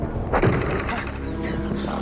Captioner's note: thwack